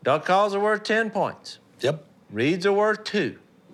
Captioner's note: none